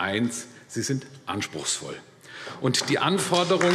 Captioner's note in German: Beifall AfD